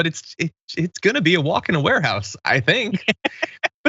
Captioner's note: laugh